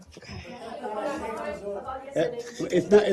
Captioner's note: reporters chatter